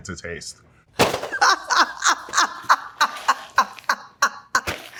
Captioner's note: participant laughs